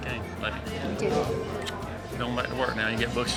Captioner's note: smooch